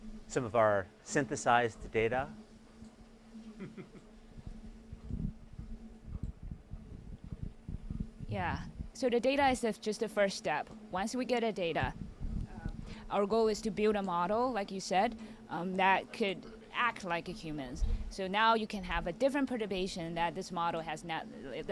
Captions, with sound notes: some of our synthesized data? [CHUCKLES] Yeah, so the data is just the first step. Once we get the data, our goal is to build a model, like you said, that could act like a human. So now you can have a different perturbation that this model has not--